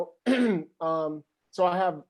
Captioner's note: clears throat